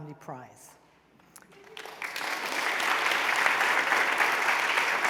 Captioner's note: applause